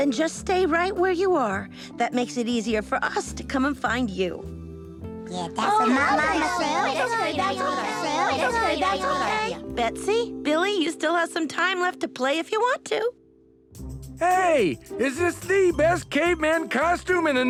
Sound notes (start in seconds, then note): 5.6 chattering